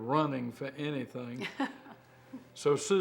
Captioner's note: laughs